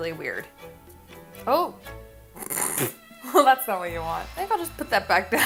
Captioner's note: snort